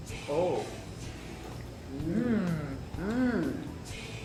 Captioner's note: exclaiming